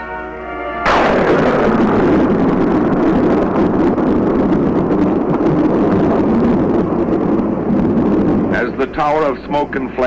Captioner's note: explosive sound